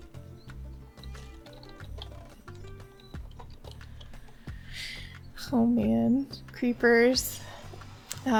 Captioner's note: typing noises